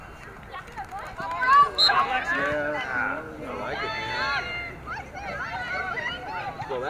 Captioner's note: crowd chattering excitedly